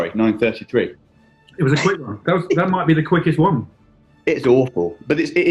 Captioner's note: giggling